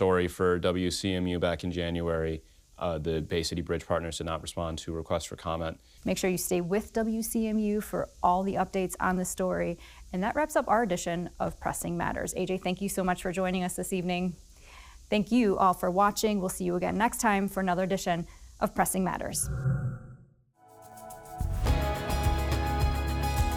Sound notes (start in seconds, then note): 19.3 logo whooshing; 20.6 bright music